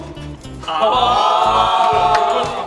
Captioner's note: his citizens sigh with shame